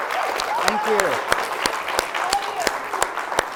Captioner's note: audience applauds